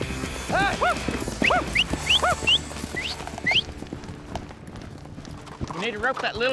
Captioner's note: prompting cattle, whistling